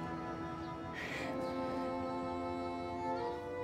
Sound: sighs

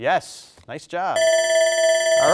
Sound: bell rings

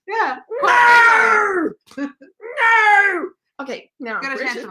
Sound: screams

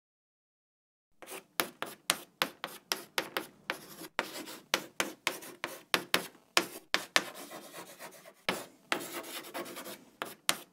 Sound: sound of writing

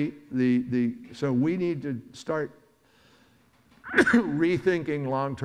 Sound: coughs

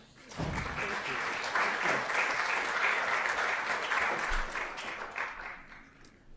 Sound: crowd applause

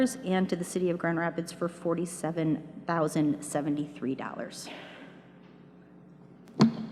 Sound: none

